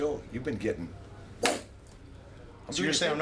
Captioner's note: fist punches